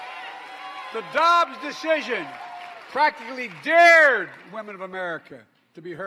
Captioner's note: applause